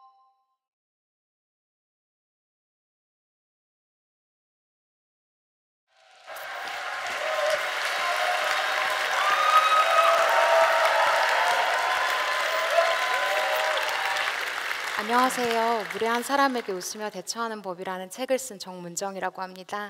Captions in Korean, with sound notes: *박수소리* 안녕하세요 무례한 사람에게 웃으며 대처하는 법 이라는 책을 쓴 정문정 이라고 합니다